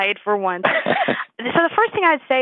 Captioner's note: laughs